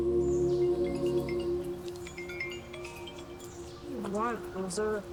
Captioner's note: phone chimes